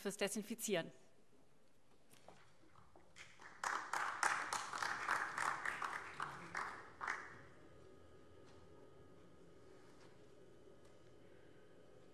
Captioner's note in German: Vereinzelter Beifall